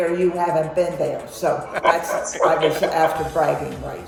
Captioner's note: laughs